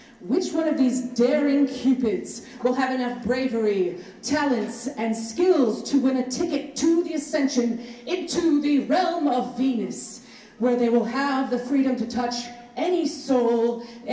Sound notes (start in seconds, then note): none